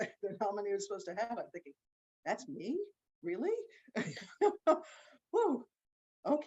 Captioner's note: laughs